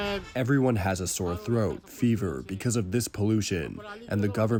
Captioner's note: through translator